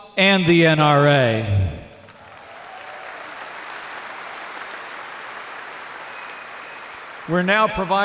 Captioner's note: applause